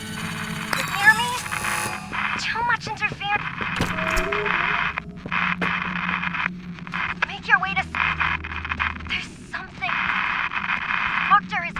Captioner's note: Static